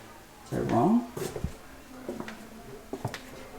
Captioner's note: footsteps